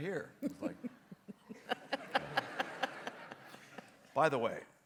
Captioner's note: audience laughs